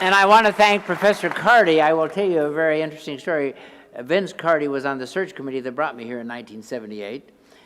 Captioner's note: applause